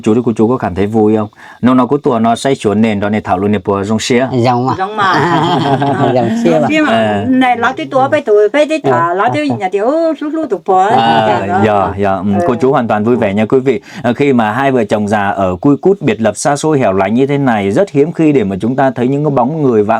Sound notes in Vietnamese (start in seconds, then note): 4.7 tiếng cười